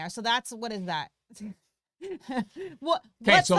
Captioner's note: chuckles